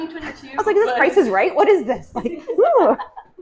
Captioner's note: laughing